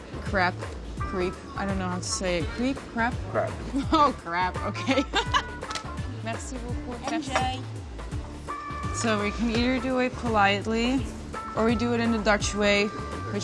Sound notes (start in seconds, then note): 4.7 laughs; 6.3 foreign language